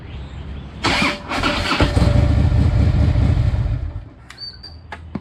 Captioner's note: engine starts slowly